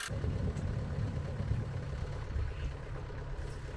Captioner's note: engine idling